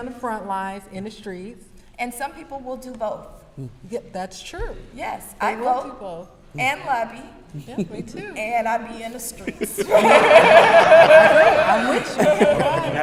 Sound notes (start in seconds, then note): 10.1 brief laughter